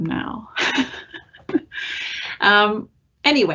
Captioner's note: laughing